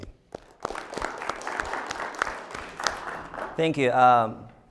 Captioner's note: applause